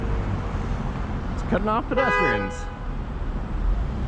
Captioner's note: honk